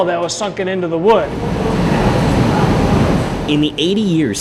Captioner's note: whirring